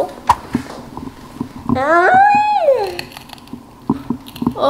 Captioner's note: mmm~